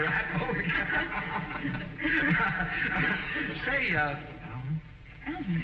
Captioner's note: laughing; laughs